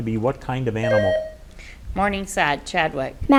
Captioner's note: buzzer beeps